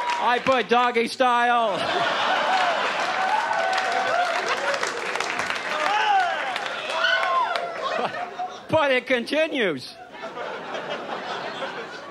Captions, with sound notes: I put "Doggy style". (audience laughs) But it continues.